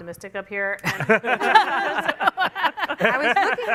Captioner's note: laughter